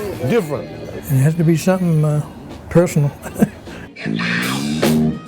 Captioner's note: chuckles